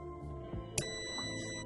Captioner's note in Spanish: sonido: piiiiiii